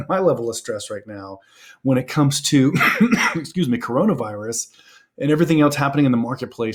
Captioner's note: coughs